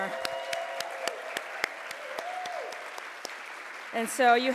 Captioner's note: audience cheers